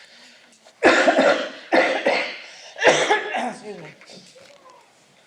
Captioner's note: coughs